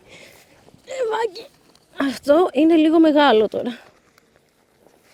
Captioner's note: speaking greek